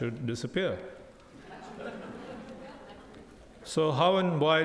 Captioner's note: audience laughing